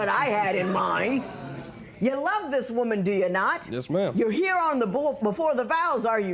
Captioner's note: spectators murmur